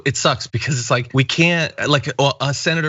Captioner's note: laugh